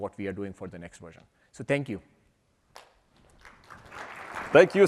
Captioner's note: applause